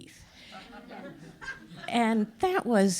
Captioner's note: all laugh